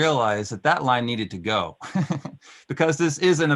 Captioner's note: laughing